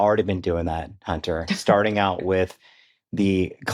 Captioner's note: chuckles